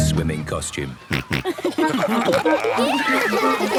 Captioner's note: snorting, giggling